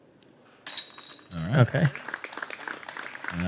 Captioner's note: applause